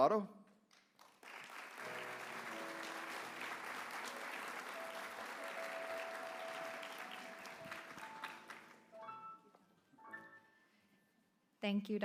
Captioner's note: applause